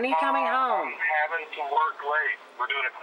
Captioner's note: on phone